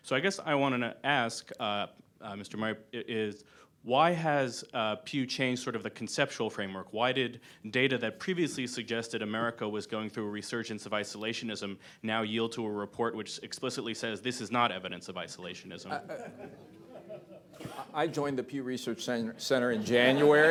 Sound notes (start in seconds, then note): 15.9 laughter; 19.7 laughter